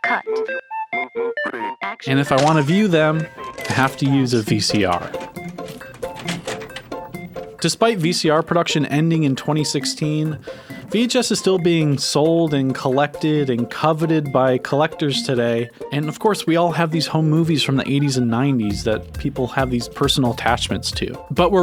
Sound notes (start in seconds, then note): 0.0 upbeat playful music; 5.5 tape clanging; 5.5 upbeat playful music